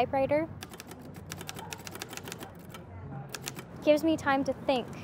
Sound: typewriter keys clacking

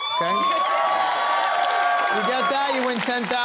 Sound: cheering and applause

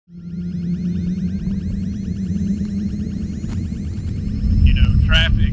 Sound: helicopter rotors whirring

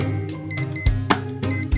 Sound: alarm Clock Beeps

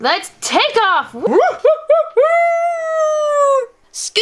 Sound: howling

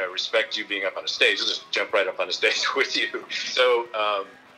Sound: laughs

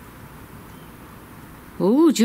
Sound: faint whistle

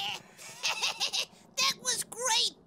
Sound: laughing

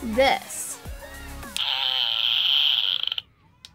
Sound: crackling noise

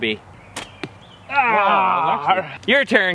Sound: grunts

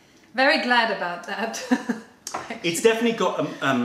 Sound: laughter

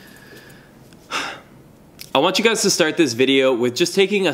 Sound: sighs

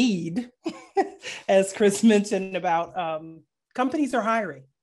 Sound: chuckling

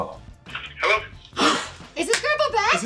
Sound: gasps

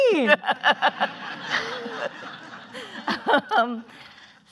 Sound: laughing

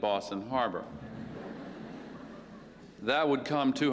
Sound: laughter

